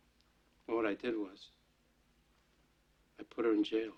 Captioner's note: none